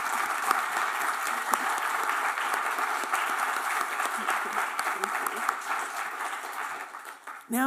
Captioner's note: applause